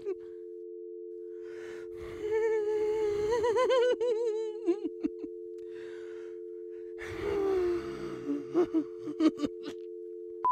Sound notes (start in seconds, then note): 2.1 angry crying; 7.1 creepy laughing and crying